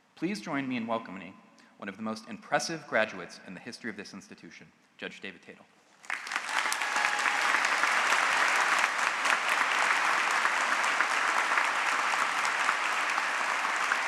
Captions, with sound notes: Please join me in welcoming one of the most impressive graduates in the history of this institution, Judge David Tatel. [APPLAUSE]